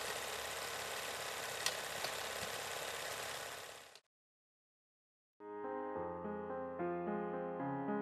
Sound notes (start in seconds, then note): 1.8 film reel spinning